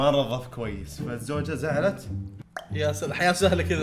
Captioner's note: clicks tongue